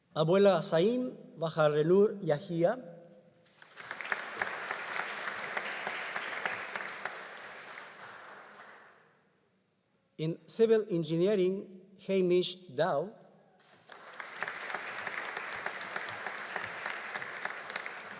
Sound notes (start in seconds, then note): 3.6 audience applauding; 13.7 audience applauding